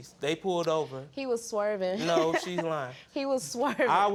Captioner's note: snickering